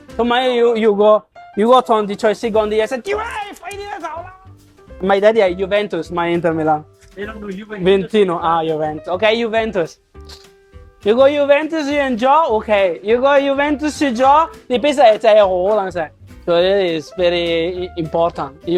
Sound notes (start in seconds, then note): 7.7 Italian